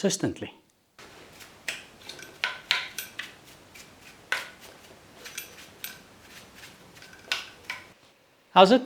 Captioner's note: workshop Noise